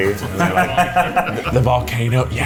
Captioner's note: laughs